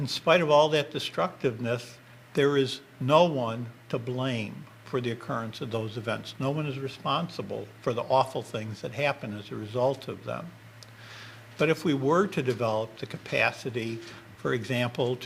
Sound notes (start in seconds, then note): none